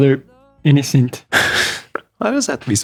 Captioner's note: chuckles